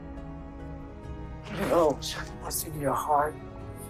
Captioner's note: voiceover